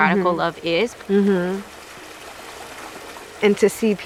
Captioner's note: water flowing